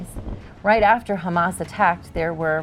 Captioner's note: explosions blasting